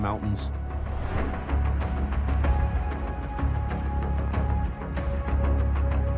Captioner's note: air swooshing; edgy music